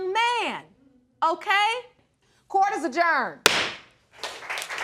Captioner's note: gavel pounds